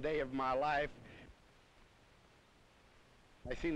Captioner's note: silent